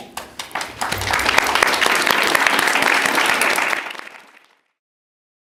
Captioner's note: applause